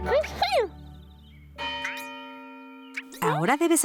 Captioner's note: church bell ringing